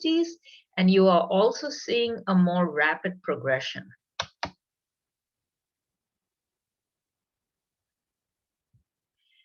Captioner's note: keyboard sound